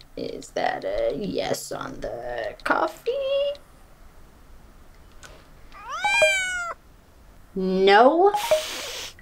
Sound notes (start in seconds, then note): 5.9 cell-phone: cat's growl; 5.9 cell-phone cat jingle